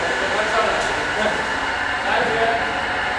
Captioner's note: construction noise, loud voices